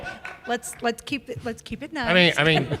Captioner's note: laughter